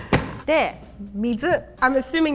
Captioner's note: speaking in Japanese